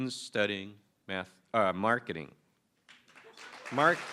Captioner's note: applause